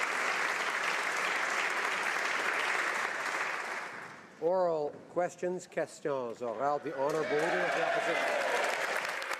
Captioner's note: applause